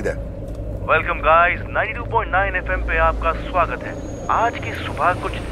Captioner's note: Man on Radio